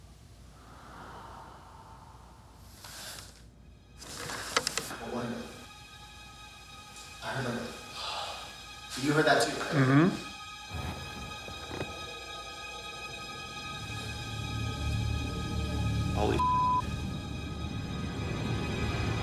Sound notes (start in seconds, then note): 0.5 faint exhale; 7.8 exhales